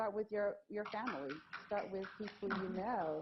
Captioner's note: applause